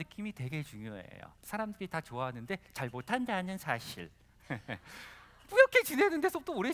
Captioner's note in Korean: 웃음